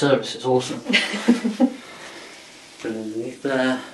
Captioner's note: partner laughs